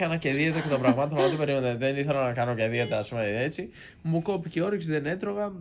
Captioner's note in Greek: γέλια